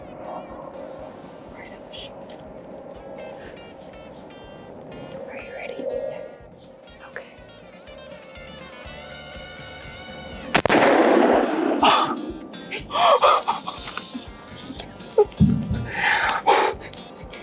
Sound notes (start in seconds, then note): 10.5 rifle bangs; 12.6 gasping